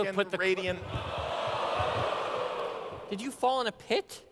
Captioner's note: audience exclaims in surprise